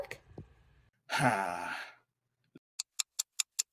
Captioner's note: Cameron sighs